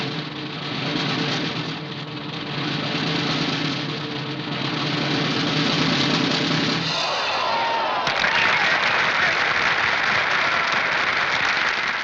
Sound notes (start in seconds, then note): 5.3 cymbal Crash; 7.6 applause